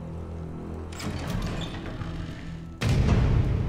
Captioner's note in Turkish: Kapı Sesi